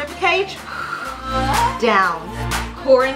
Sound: exhales

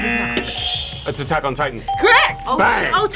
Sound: buzzer rings

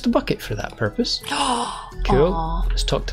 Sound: gasp

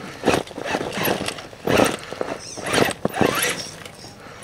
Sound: motor whining

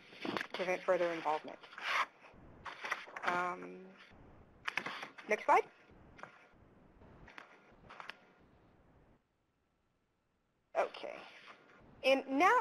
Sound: pause

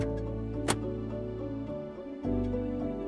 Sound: filter clicks together

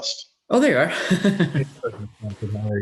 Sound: giggles

